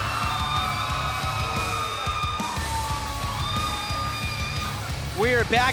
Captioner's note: cheers & applause